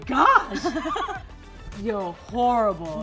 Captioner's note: laughing